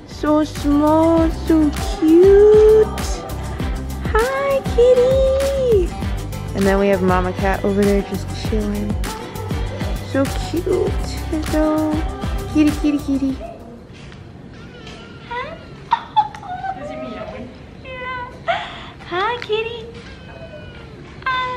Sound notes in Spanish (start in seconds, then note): 9.4 música alegre; 14.6 gatito maullando; 15.3 Risas agudas; 20.1 gatito maullido